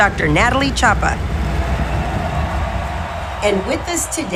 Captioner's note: crowd cheering